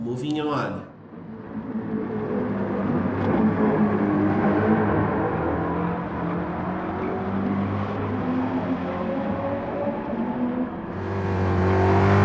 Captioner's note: engines revving, cars noises